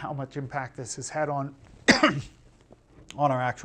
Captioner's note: coughing